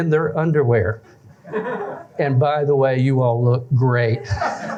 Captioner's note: laughter